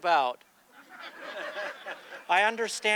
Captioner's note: audience laughing